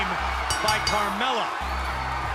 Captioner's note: bell ringing